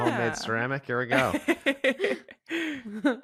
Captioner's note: chuckles